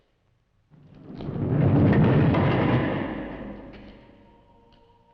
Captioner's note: door rumbling; singers vocalizing